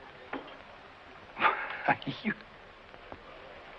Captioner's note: laughs